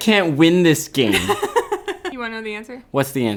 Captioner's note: laughing